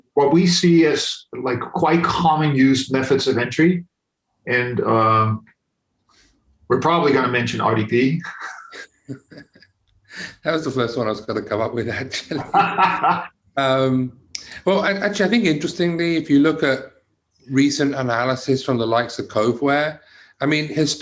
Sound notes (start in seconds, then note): 8.1 laughs softly; 12.6 laughs loudly